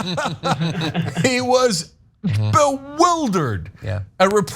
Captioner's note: laugh